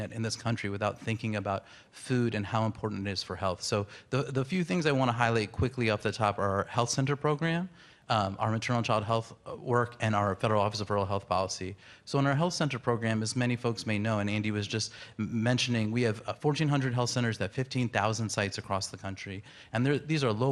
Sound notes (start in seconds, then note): none